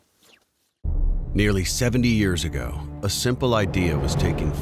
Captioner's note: voiceover